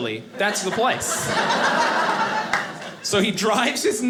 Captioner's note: audience laughing